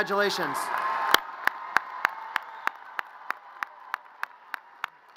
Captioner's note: audience cheers and applause